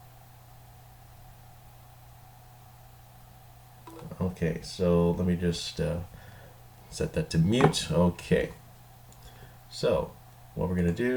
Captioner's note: brief silence